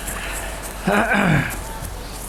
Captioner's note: footsteps on leaves